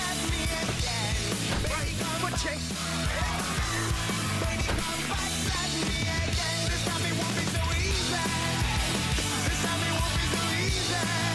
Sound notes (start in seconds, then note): 2.7 screaming